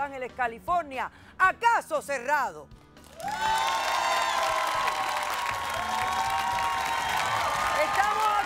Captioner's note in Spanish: Aclamaciones